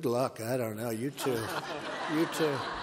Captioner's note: laughter